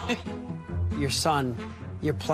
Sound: laugh

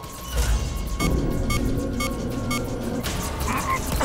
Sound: beeping

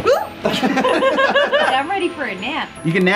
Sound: everyone laughs

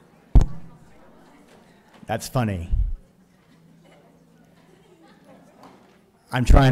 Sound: taps microphone

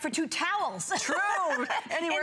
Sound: laughter

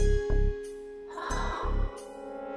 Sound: exhaling

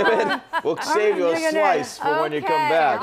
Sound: laughter

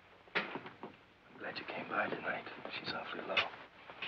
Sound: whispering

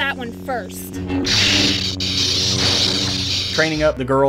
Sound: sabers clashing

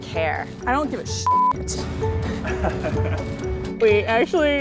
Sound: beep; laughs

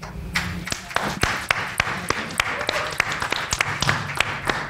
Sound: panel applauds

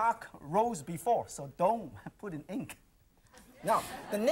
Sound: audience laughs

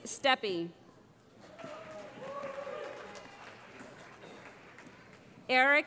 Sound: cheering

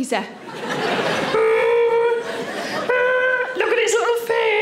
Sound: audience laughing; Sarah groaning

